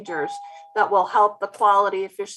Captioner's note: doorbell rings